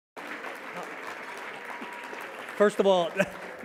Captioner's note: applause